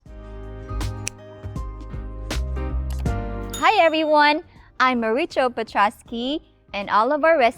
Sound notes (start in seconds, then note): 0.0 scissors click; 3.6 mouse clicks, timer dings